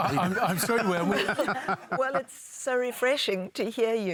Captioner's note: laughter